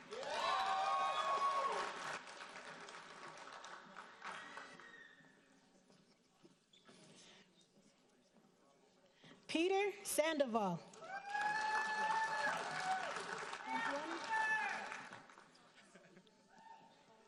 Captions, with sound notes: (audience cheering and applauding) Peter Sandoval. (audience cheering and applauding)